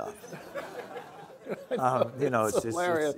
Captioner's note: audience laughing